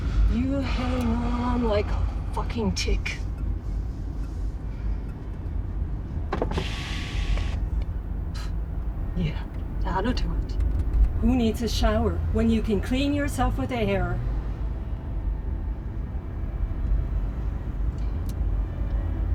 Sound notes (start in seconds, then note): 3.8 somber music; 6.2 window whooshing